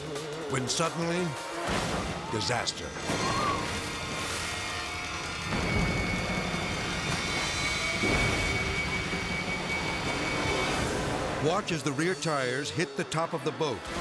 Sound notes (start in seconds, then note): 1.7 impact smashes; 2.6 tense music; 2.6 water splashes